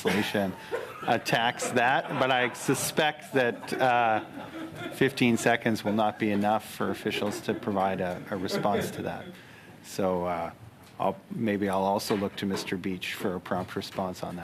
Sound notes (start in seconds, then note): 7.0 laughter